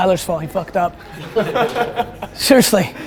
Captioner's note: group laughter